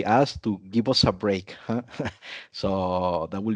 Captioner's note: chuckles